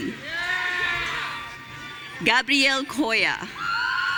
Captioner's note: audience cheering